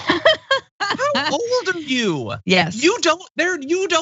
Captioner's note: laugh